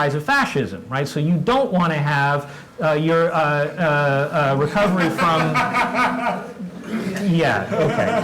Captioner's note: laugh